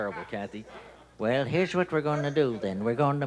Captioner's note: old man voice